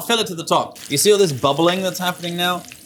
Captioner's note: oil sizzling